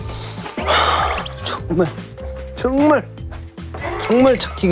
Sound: sighing

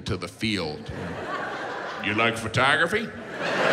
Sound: audience laughs

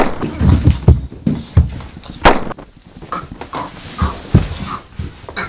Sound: gunshot

